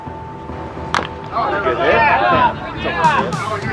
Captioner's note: crowd cheering